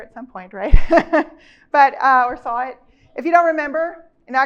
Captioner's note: chuckles